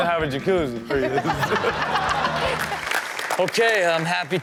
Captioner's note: laughs